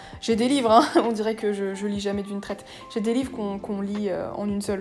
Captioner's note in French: rire